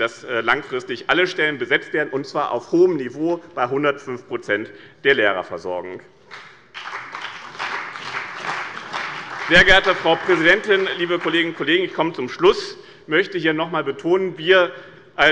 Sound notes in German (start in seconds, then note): 6.2 Beifall bei dem BÜNDNIS 90/DIE GRÜNEN und der CDU